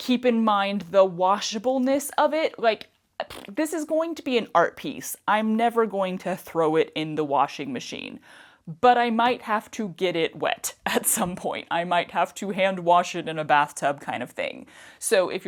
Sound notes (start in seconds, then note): 2.6 mouth fart